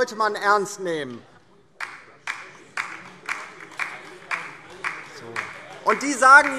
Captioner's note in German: Beifall DIE LINKE